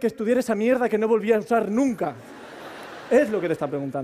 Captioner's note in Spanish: Risas